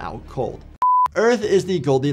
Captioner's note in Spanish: pitido gráfico